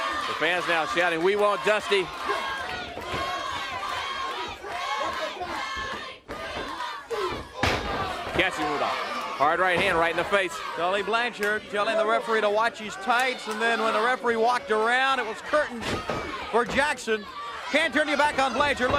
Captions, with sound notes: >> FANS NOW SHOUTING, "WE WANT DUSTY." >> [CROWD CHEERING] >> JACKSON WITH A HARD RIGHT HAND RIGHT IN THE FACE. >> TULLY BLANCHARD YELLING THE REFEREE TO WATCH HIS TIGHTS AND THEN WHEN THE REFEREE WALKED